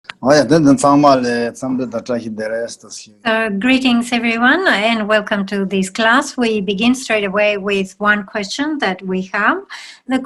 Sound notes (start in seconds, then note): 0.5 man speaking in foreign language